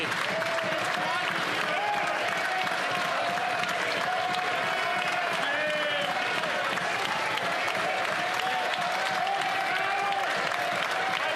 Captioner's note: some Applause